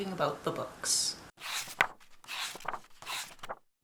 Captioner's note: pages turning